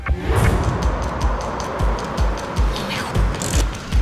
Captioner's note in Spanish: Ruido del vehículo